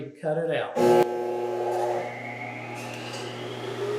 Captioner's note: saw buzzing